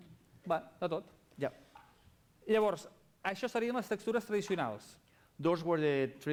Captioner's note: non-english speech